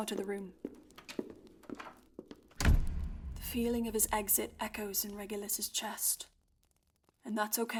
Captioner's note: door slams